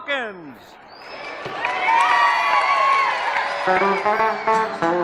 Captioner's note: cheers and applause